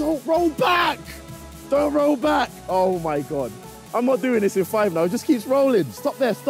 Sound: none

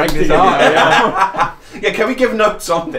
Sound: laughing

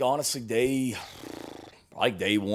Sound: blows raspberry

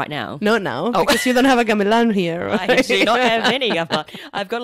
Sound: laughs

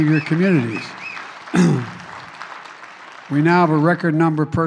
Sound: applause

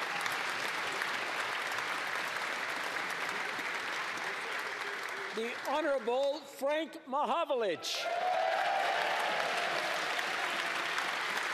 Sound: cheering and Applause; applause

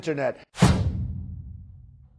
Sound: thump

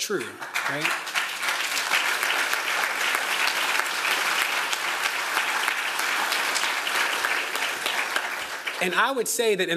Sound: applause

